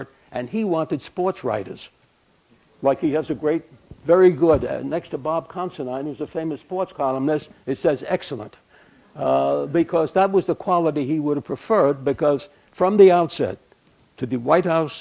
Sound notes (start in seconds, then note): none